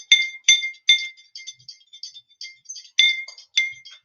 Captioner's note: stirring